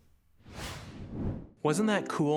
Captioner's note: background air gusting